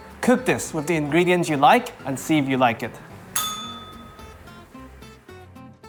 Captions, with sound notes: Cook this with the ingredients you like and see if you like it. [bell rings]